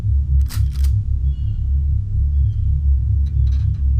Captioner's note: droning music continues; shotgun cocks